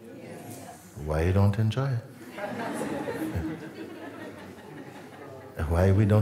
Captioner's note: Lachen